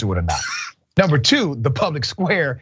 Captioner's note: laugh